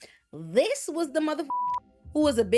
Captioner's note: beep